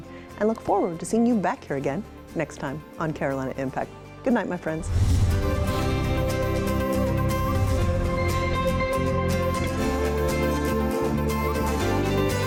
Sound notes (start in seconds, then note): 4.7 logo swooshes; 5.0 bright music